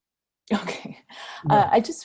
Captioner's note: laughs